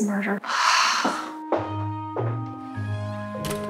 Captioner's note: sighing